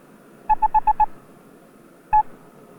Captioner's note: beeping